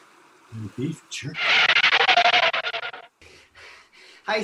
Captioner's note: screeching tires